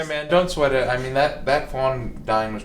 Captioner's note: laughs